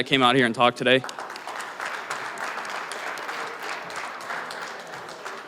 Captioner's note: applause